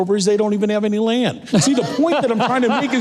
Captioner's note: laughing